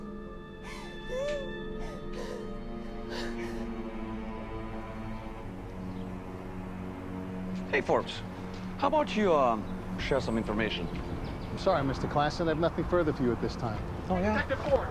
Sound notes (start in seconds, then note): 0.1 dramatic music; 7.0 birds chirping